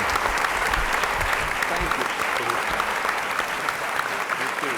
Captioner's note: applause